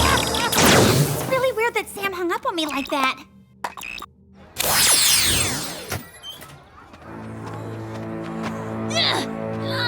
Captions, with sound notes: Never underestimate the power of pantomime! [laughing] It's really weird that Sam hung up on me like that.